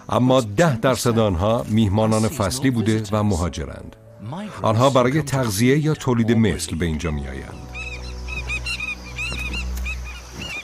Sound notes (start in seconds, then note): 7.6 squawking